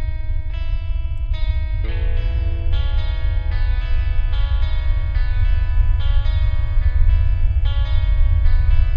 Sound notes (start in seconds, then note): 4.3 high pitch ring begins